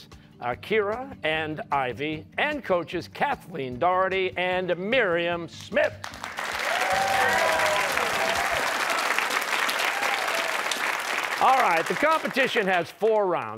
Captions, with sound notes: with alternates Kira and Ivy, and coaches Kathleen Doherty and Miriam Smith. (cheers and applause) All right, the competition has four rounds--